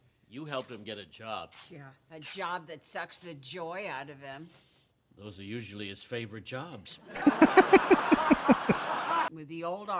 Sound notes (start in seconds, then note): 7.1 chuckling